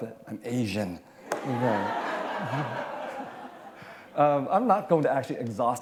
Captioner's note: laughter